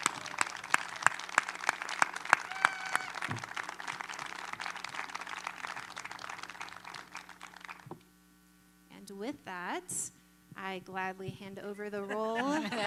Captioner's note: applause